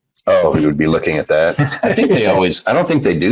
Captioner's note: laughs